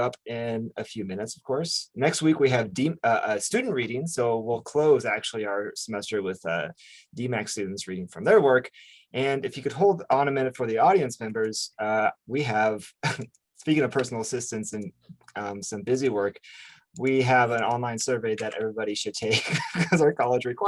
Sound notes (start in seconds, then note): 13.0 chuckles; 19.3 laughs